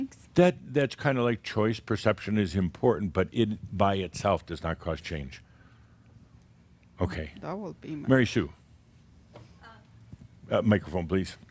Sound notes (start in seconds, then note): none